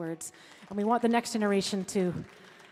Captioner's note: audience clapping